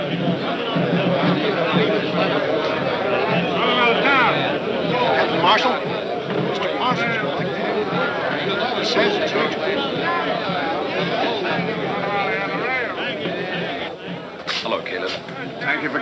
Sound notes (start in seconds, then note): 3.5 man shouting indistinctly